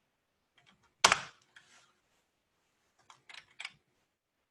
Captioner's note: keyboard tapping